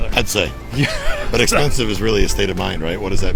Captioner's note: laughing